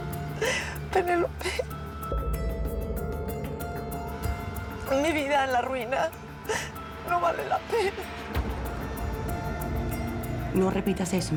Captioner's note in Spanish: Sollozos